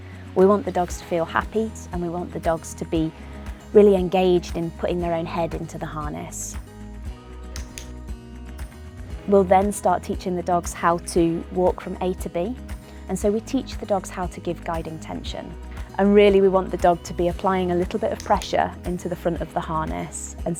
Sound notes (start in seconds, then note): 7.5 clicks